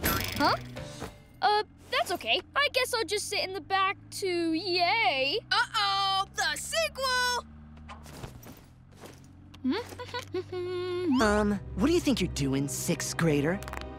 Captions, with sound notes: Huh? Oh, that's OK. I guess I'll just sit in the back to-yay. Uh-oh! The sequel! [humming] Um, what do you think you're doing, sixth-grader?